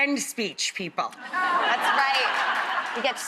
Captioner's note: crowd laughs